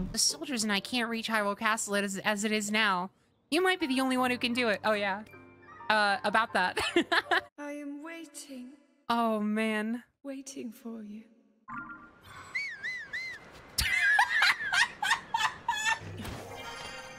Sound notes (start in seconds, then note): 6.8 laughter; 12.2 Link Whistling; 13.8 laughter